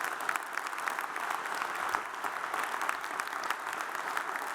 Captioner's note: audience applauds